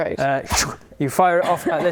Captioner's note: ptoo